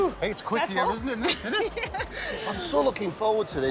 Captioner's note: laughs